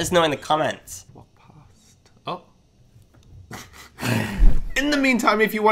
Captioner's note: laughing